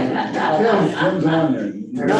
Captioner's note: group laughing